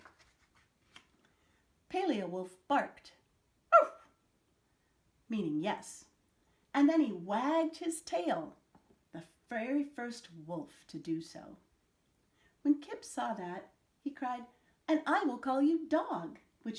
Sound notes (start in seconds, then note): 3.7 barks